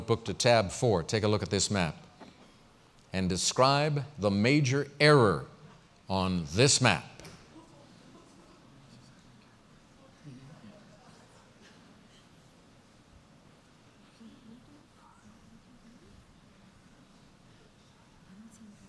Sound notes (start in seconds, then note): 7.0 pause